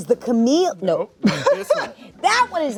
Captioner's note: laughs